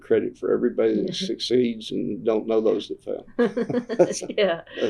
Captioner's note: laughter